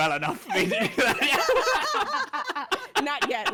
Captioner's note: all laughing